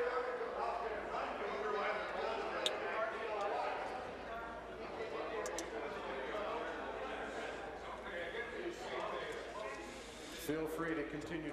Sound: conversation din

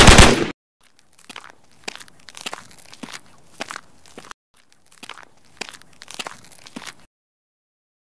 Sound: bone cracking again what the heck man

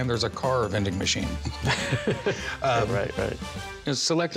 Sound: chuckles

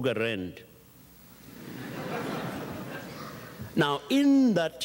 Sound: audience chuckles

